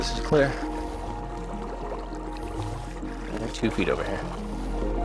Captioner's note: suspenseful music continues; water lapping gently